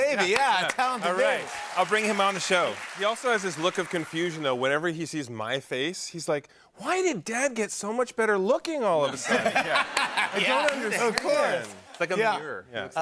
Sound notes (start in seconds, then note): 9.1 laughter